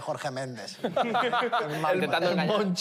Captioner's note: laughter